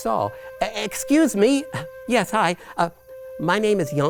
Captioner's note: stammers